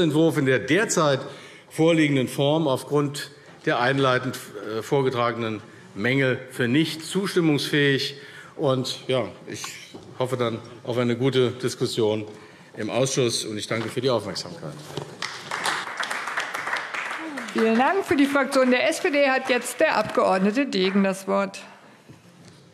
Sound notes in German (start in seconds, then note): 15.1 Beifall AfD